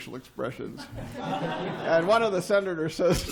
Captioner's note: laughter